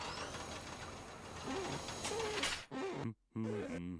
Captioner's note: glass squeaking